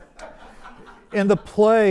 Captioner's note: audience laughs